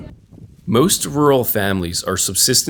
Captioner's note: voiceover